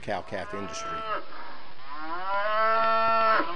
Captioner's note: cows mooing